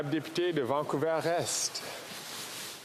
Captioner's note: speaking French